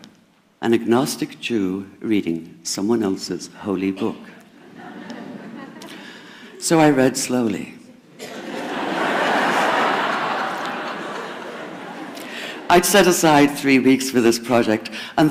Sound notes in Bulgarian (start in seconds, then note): 4.5 Смях; 8.0 Смях